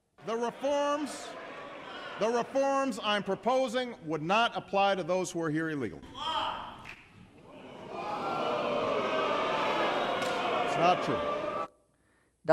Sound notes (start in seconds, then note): 7.4 audience boos